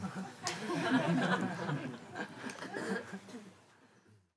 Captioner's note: Lachen